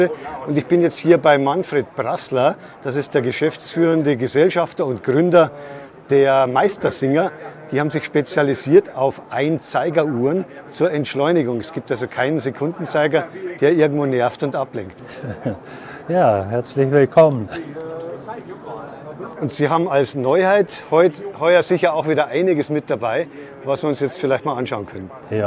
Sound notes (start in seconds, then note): 15.0 laughter